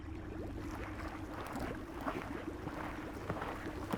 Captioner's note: manatee chewing vegetation